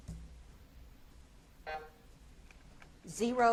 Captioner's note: buzzer buzzes